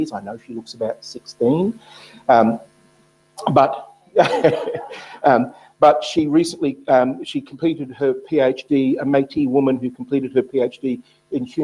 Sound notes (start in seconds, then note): 4.2 laughs